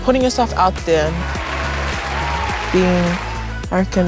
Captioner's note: crowd cheers